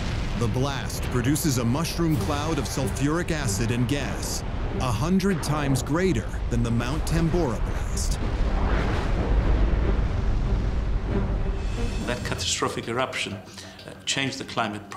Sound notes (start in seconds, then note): 8.3 deep rumble; 8.3 violent thunder